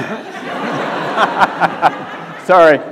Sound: audience laughs

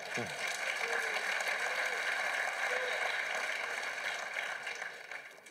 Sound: applause from the floor

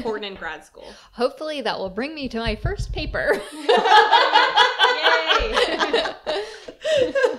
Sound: laughter

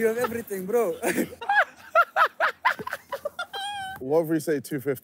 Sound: laughing

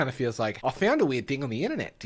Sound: speaking in Australian accent

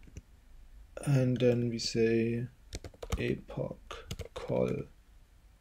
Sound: typing

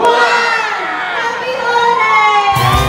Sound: crowd cheering

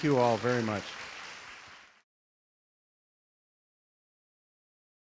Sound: audience clapping

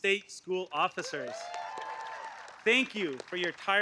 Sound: applause

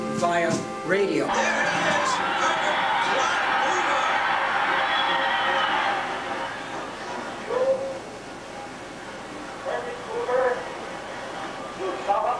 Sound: cheering

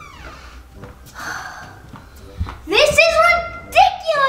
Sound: sighing

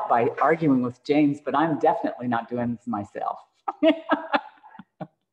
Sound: laughs

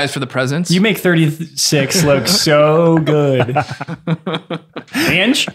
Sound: everybody laughing

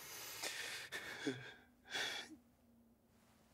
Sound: Matt crying

